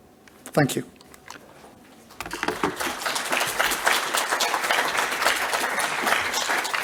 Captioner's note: audience applauds